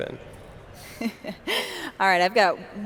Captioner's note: laughs